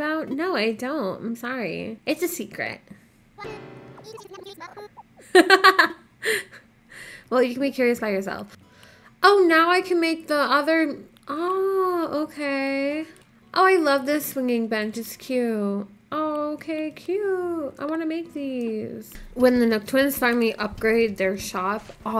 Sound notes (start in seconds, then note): 4.0 laughing